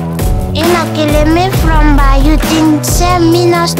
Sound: foreign language

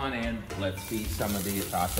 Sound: hot dog sizzling

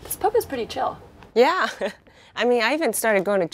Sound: scoffs

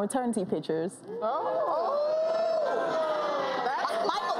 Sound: audience oooing

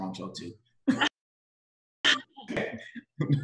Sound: laughs

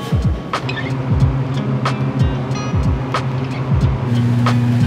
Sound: gentle music continues; storage fan whirring

